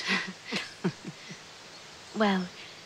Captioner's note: laughs